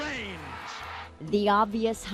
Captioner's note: cheering